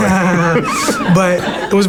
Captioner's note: laughs